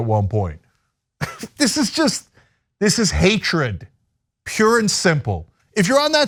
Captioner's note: laugh